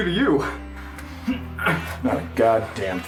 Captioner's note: labored breathing